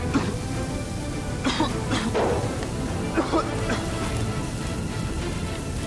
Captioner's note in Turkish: Öksürüyor